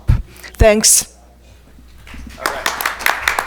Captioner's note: attendees applaud